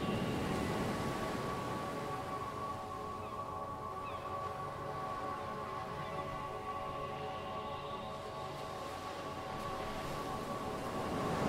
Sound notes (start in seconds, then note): 0.0 waves crash; 3.0 seagulls call